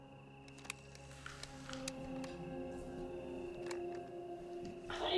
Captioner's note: tape whirring; recorder clicks